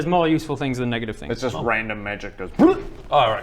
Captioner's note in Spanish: ¡blllrrrp!